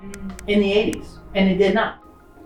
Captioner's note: numbers click